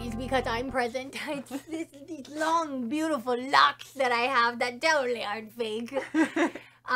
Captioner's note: laughs